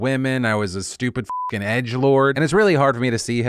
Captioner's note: beep